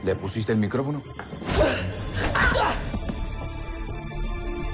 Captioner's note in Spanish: Quejidos